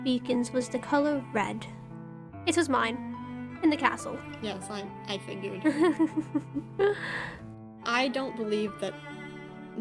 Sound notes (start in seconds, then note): 5.6 ROSE laughs